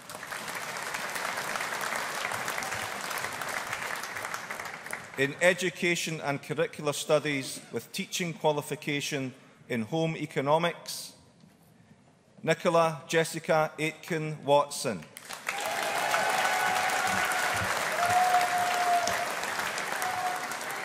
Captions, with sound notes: (AUDIENCE APPLAUDING) In Education and Curricular Studies with Teaching Qualification in Home Economics, Nicola Jessica Aitken Watson. (AUDIENCE APPLAUDING)